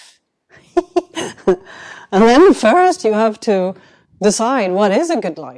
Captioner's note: chuckles